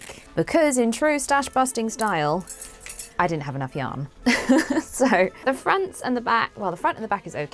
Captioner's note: laughs